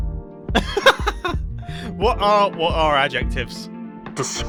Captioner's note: laughs